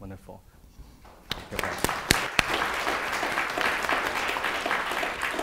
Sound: audience applauding

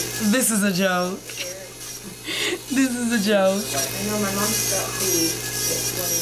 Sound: laughs

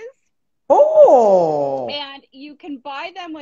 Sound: bawling

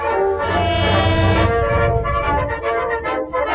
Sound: horn blast

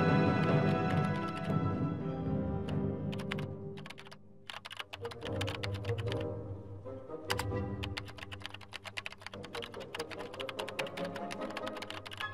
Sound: keyboard clicking

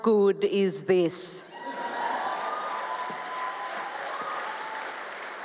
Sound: cheering, applause

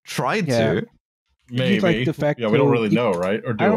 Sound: keyboard tapping

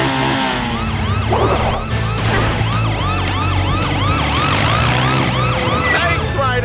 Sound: sirens blaring

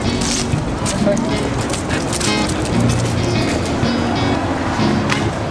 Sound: people chattering

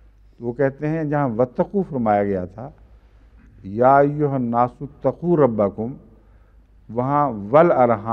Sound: Arabic

